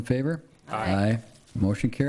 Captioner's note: in Unison